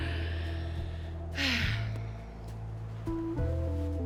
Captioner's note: sighs